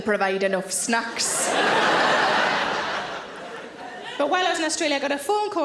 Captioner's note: audience laughing